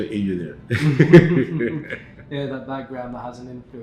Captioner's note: chuckle